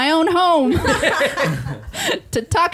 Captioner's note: laughing